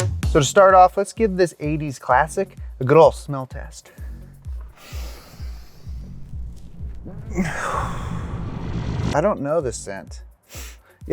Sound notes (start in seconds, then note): 0.0 energetic music; 3.9 deep inhale and exhale